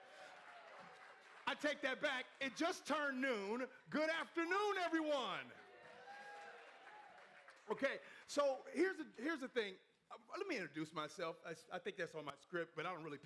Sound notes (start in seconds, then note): 0.0 crowd cheering; 5.4 crowd cheering and applauding